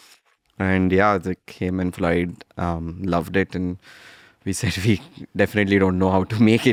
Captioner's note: laughs